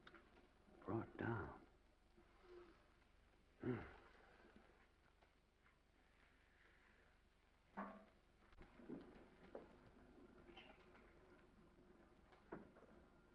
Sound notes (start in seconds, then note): 3.6 sighs; 8.0 footsteps receding